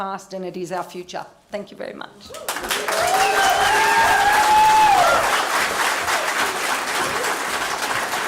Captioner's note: cheering and applause